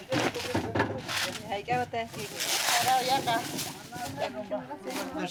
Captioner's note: speaking in foreign language; people chattering